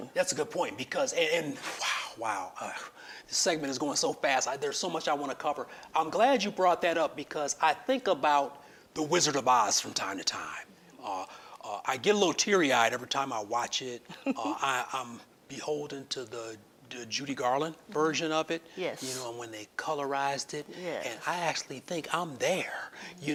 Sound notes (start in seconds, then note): 14.0 giggling